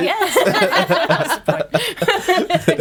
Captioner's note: laughing